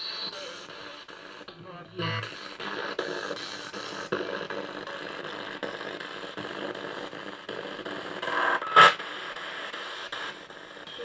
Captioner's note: sound of the Spirit Box in the background